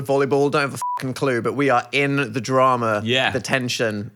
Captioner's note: beeps